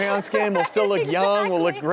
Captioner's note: laughter